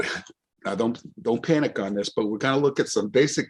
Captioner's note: laughs